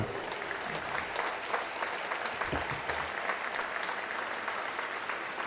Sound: applause

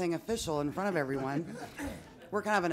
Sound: some laughing

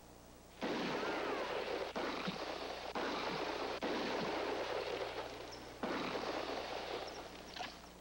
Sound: gunshot; gunshots

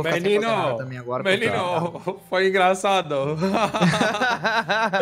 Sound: laughs

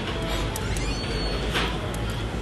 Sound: door squeak

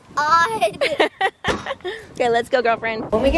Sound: laughing

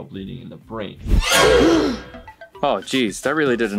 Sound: bears gasp

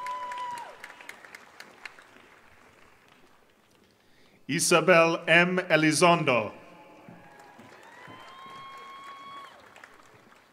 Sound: applause

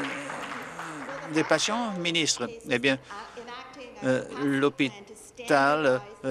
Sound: applause

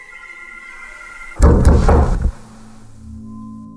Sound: door knock

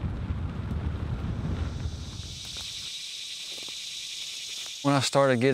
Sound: insects buzzing

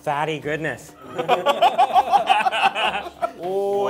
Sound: they laugh

